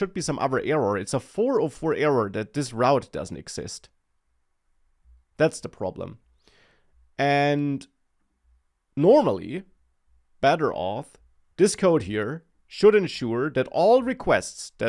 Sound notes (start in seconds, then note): none